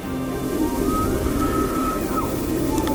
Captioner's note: elk bugle